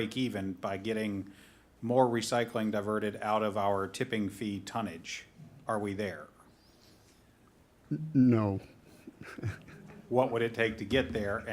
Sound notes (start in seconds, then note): 8.9 chuckles